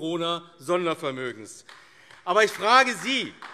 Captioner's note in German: Beifall AfD